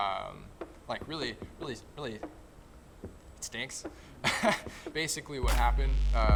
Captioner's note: laughing